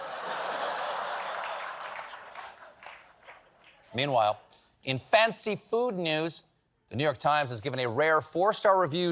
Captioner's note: laughter